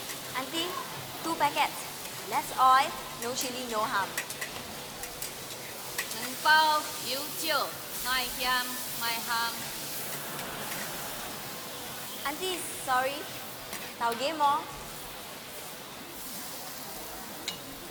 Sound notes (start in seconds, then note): 10.0 audience laughter